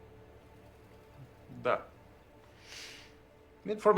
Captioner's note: speaking in a foreign language